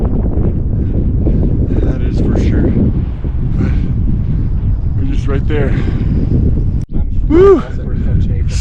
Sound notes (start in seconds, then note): 0.0 wind blowing